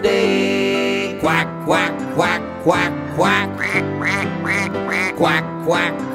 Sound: duck quacking

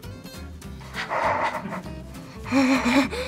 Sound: pants

